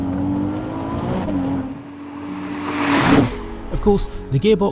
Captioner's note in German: Motor aufheulen